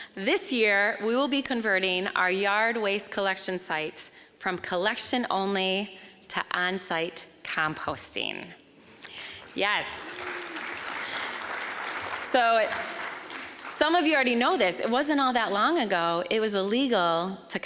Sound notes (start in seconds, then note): 9.0 applause